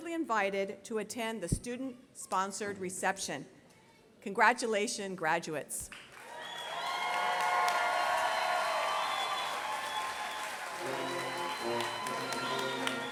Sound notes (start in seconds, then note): 6.0 applause, cheers; 10.8 orchestra plays music